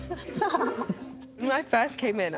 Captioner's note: laughter